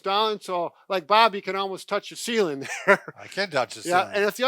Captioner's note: chuckles